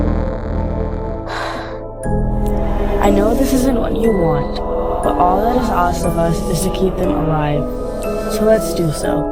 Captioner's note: sigh